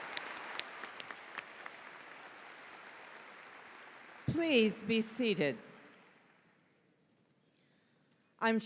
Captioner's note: applause�